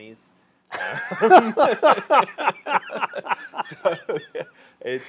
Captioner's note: laughing